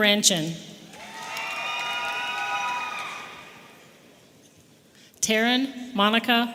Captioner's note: audience applauding and cheering